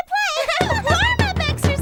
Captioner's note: all giggling; drum banging